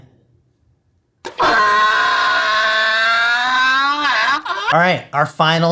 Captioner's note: distressed donkey cry